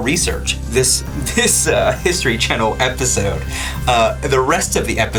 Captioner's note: laughing